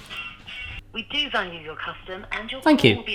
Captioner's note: automated Voice